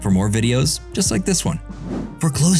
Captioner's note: swoosh